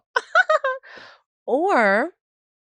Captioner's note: laughs